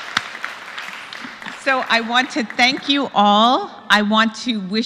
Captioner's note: applause